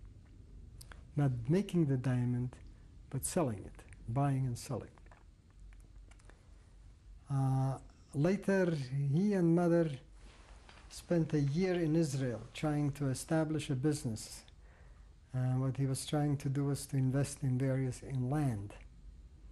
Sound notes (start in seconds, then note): 5.3 pauses for 3 seconds